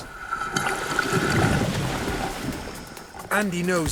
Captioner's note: waves crashing